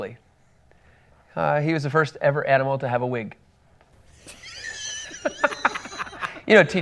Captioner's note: laughs